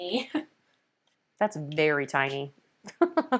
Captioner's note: laughs